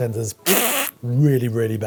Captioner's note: blowing raspberry